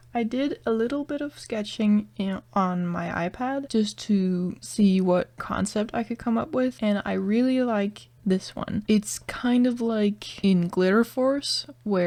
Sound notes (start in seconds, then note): none